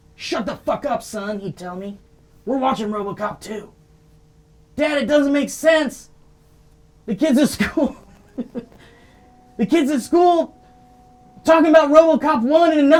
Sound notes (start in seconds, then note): 7.4 laughing